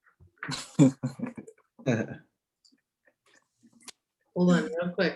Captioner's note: laughing